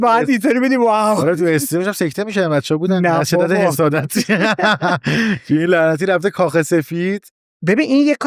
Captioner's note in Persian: خنده